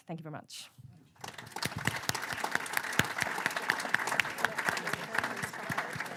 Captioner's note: applause